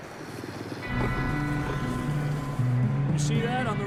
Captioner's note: wolves growling